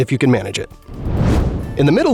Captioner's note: whoosh